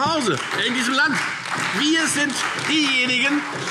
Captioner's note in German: Beifall Freie Demokraten und SPD